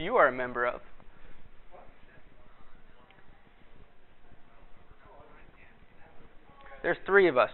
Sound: pause in dialogue

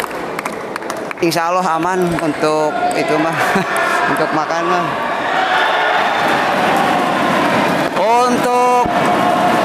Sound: applause

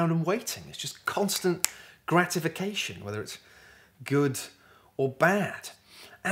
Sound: snap, snap

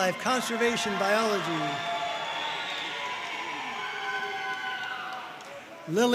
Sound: audience cheering and applauding

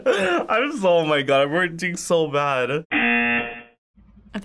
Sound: buzzer

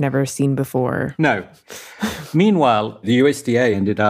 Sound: laughs

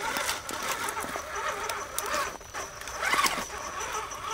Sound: engine noise

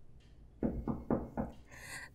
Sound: knocks on door

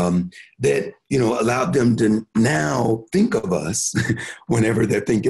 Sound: chuckles

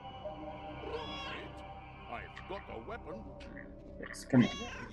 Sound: Hodge meows

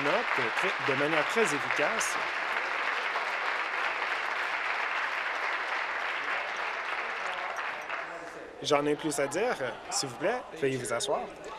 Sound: applause

